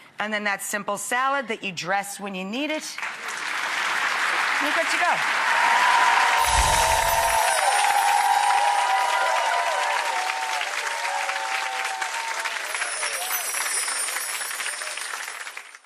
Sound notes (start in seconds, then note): 3.3 audience claps; 6.4 chiming music